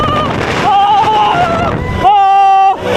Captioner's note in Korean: 으어어어어어어어